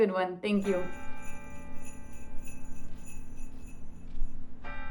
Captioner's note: bell chimes